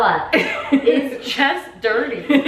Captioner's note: laughing